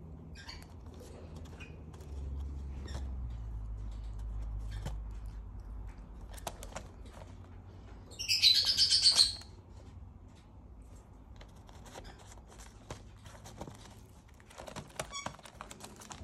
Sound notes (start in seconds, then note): 8.0 bird chirping